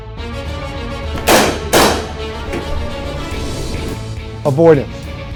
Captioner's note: gunshot